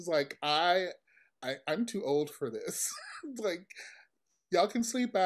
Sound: chuckles

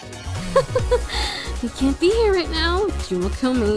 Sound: uncomfortable laugh

